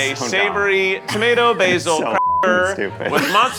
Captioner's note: beeps